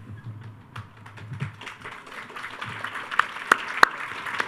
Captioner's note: all applauding